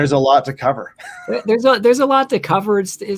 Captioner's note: laughs